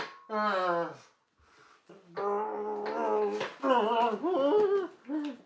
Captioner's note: Longbutt groans